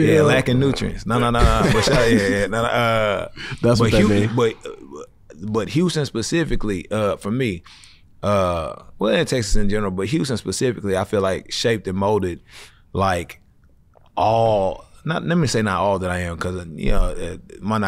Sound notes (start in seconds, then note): 1.4 laughs